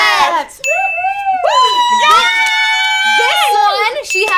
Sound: women cheering

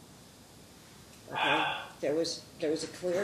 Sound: counsel Sighs

